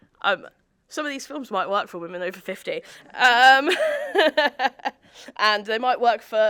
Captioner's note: laughs